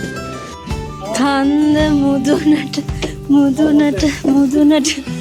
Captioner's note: hums a Sri Lankan song